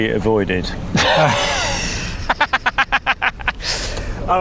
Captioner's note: laugher